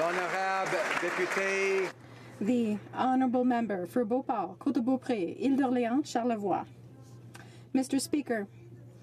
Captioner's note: applause